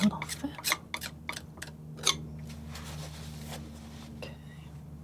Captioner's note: scratching